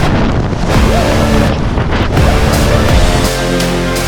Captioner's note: wind blustering